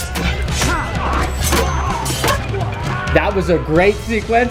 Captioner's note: blades clanging; men grunting